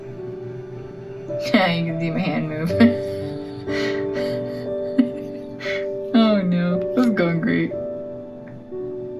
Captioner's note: laugh